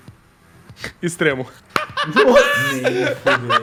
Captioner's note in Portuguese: Risadas